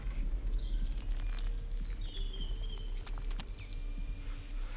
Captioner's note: blood dripping